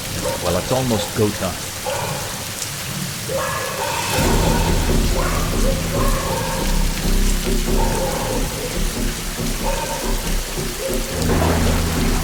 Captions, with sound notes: Well, it's almost go time. (dogs barking)